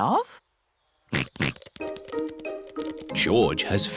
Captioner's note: snorts